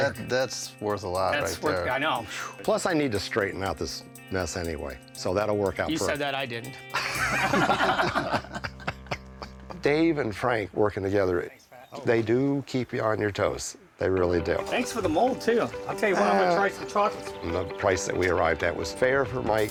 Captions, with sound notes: That's worth a lot right there. I know. Plus, I need to straighten out this mess, anyway. So that'll work out perfect. - You said that. I didn't. [laughter] Dave and Frank working together-- they do keep you on your toes. They really do. Thanks for the mold, too. I'll tell you what, I'm gonna try some chocolates. And the price that we arrived at was fair for Mike,